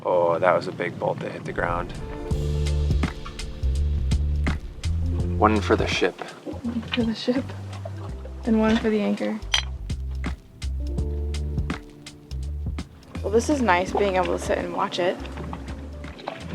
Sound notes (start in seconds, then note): 2.2 chill music; 9.4 glasses clinking